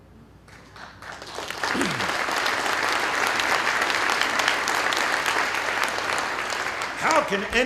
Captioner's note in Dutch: Applaus